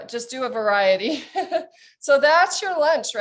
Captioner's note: chuckles